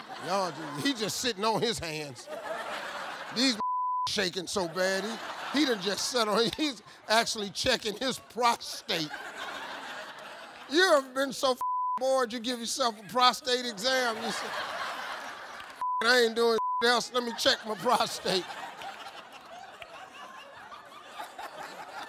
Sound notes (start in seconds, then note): 2.5 audience laughs; 3.6 beep; 9.4 audience laughing; 11.6 beep; 16.5 beep; 18.9 audience laughing